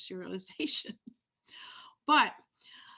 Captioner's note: laughs